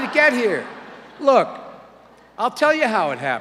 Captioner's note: audience laughter